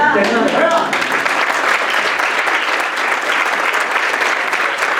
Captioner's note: applause